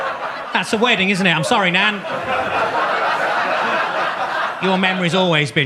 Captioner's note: audience laughs